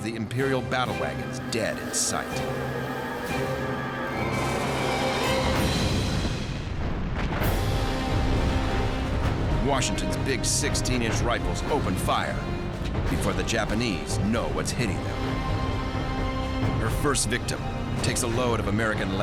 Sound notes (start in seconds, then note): 5.5 gunfire